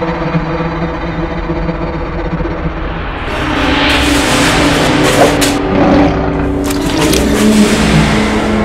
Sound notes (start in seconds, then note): 5.8 skinwalker growls